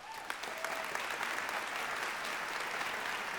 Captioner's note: applause